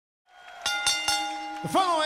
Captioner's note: bell dings